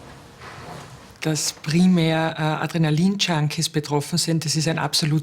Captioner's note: German